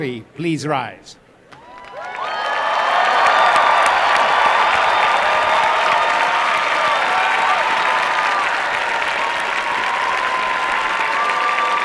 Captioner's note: applause and cheering